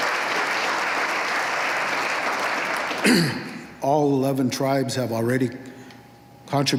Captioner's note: applause